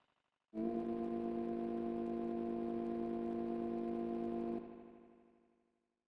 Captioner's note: train whistle blows in the distance